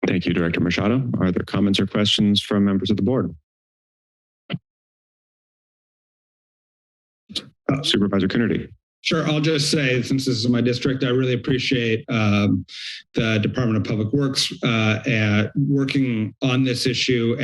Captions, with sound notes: -Thank you, Director Machado. Are there comments or questions from members of the Board? [silence] -Uh. - Supervisor Coonerty. -Sure. I'll just say since this is my district. I really appreciate uhm the Department of Public Works uh at working on this issue